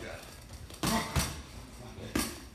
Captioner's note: clunking